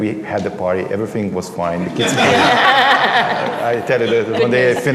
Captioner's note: laughter